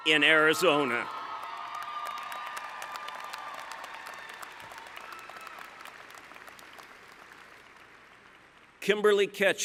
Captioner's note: cheering